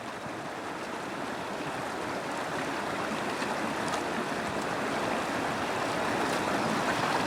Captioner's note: water echoing